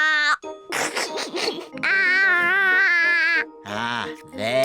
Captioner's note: giggles